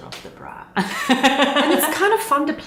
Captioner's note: laughing